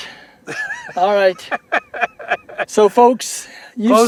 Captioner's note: laughter